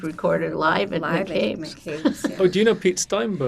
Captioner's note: laughing